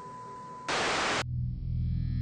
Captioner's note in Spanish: estática